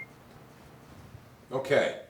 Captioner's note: projector beep